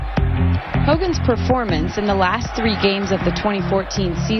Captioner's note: voiceover